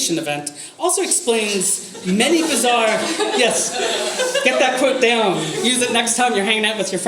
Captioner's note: audience laughter